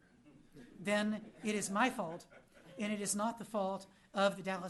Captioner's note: laughter